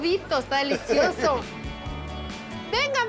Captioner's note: laughs